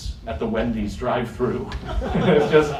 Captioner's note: laughter